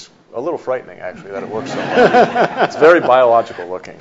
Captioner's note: audience laughs